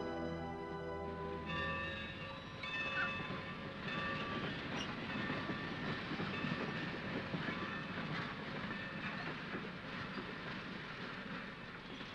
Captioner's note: station bell rings; train rumbles softly